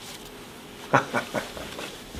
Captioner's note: laughs